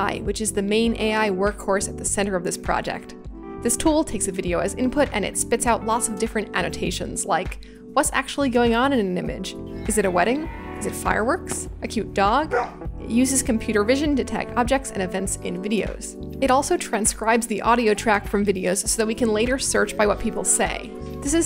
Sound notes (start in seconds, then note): 12.5 bark